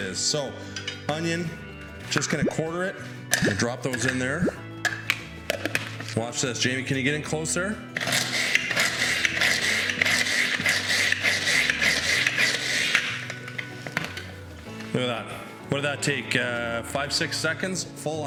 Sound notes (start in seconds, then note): 8.1 chopping